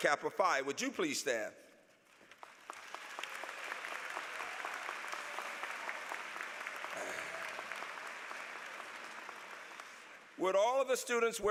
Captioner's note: applause